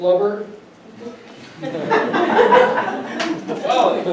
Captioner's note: audience laughs